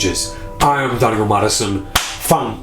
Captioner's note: claps